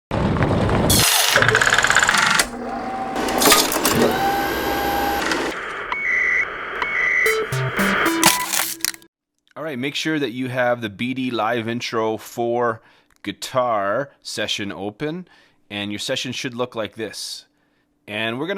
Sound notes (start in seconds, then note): 1.0 film reel turning; 7.2 scanning sound